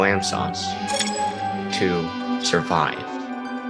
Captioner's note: objective changing sfx